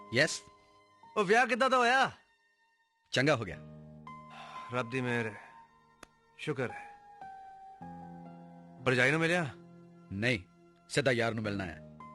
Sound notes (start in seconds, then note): none